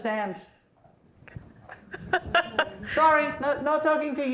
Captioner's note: laughing